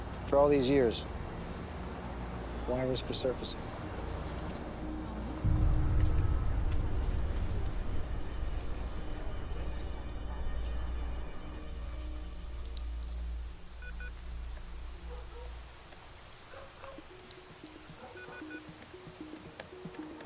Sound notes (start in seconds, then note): 13.7 beeps; 16.4 distant dog barking; 17.6 beeping